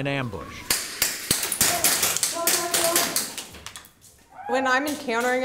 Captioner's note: gun clicks